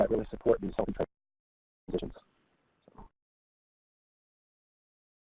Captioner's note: audio cuts out